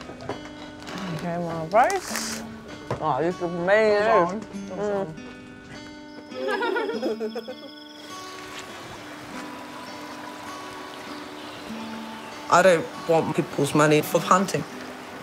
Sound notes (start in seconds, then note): 6.3 laughing; 7.9 water running